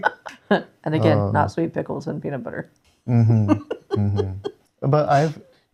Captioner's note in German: lacht; lacht